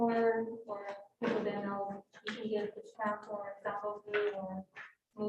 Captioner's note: speaks faintly